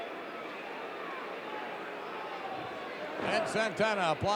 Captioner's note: audience cheering